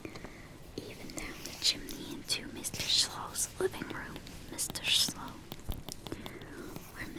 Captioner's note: taps